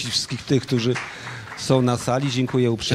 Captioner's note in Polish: oklaski